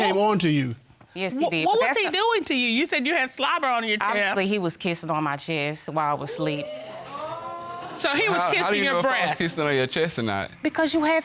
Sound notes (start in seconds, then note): 6.3 audience exclaiming